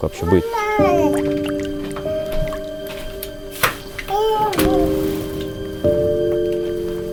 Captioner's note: water dripping